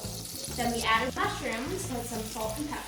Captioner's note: sizzling